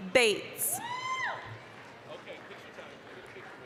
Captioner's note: applause, cheering